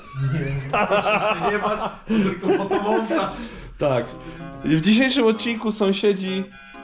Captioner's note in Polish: śmiech